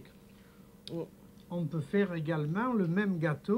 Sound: speaking French

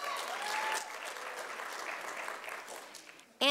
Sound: sound of applause from audience

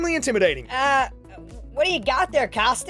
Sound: voice tone change

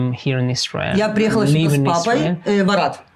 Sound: speaking in foreign language

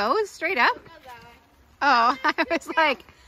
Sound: boy yells

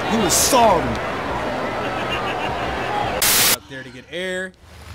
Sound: crowd cheering

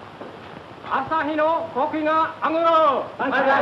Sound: Japanese language

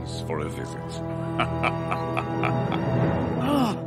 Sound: laughing

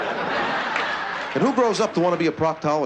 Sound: laughter

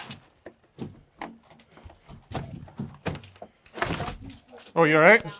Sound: doorframe thumping

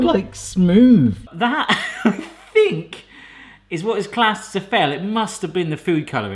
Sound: laughing

